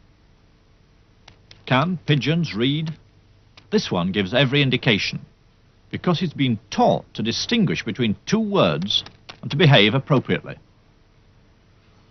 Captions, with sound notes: - [Voiceover] Can pigeons read? This one gives every indication because it's been taught to distinguish between two words and to behave appropriately.